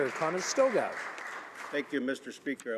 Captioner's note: applause